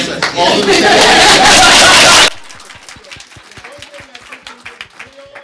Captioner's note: audience applauding